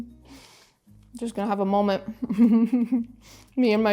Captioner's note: giggles